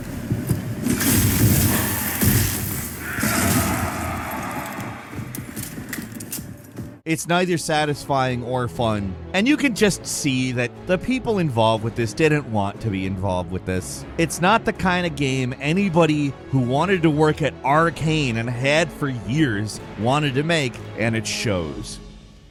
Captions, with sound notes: (heartbeat thudding) (flames whooshing) (vampire screeching) (gun clicking) It's neither satisfying or fun. And you can just see that the people involved with this didn't want to be involved with this. It's not the kind of game anybody who wanted to work at Arkane, and had for years wanted to make, and it shows.